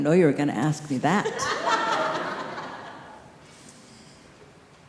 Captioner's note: group laughing